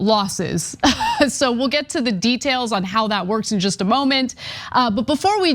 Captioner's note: laugh